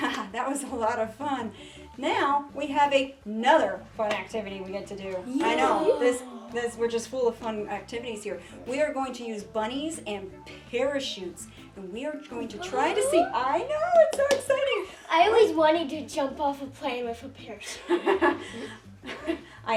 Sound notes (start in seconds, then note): 12.9 gasping; 17.7 laughs